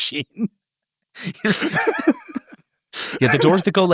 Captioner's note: everyone laughs